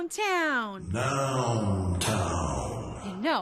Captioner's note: voiceover